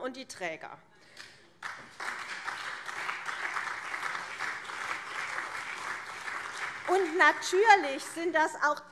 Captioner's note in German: Beifall CDU und SPD